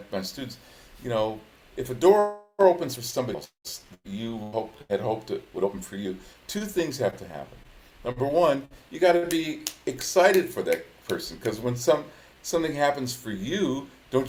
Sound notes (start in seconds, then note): 9.2 hands clap